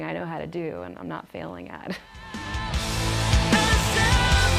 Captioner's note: risos